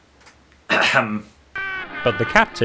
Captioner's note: clears throat